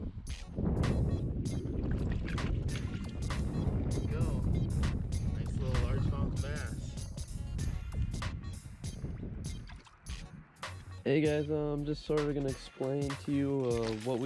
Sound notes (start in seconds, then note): 1.6 fish splashes